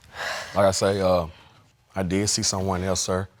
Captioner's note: exhales